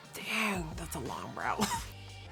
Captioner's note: laughs